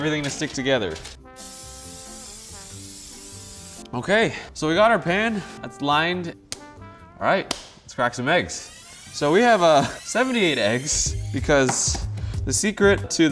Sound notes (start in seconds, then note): 1.3 aerosol whispers; 7.4 glove snaps